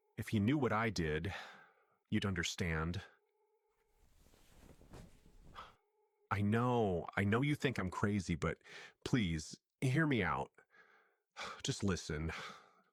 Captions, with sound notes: If you knew what I did...you'd understand. (fabric rustling) I know! I know you think I'm crazy but...please...hear me out. (sigh) Just listen.